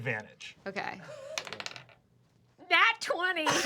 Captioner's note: rolls dice